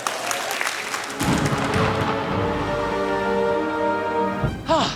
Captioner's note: thunder rumbles